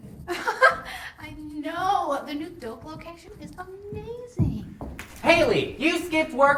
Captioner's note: laughing